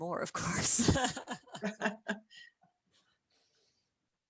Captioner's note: laughter